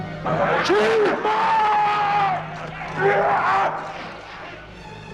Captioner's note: shouts